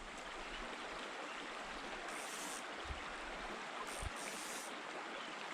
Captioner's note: river flowing downstream